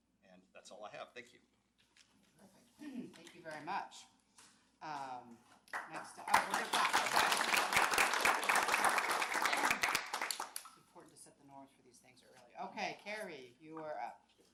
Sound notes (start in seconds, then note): 7.9 applause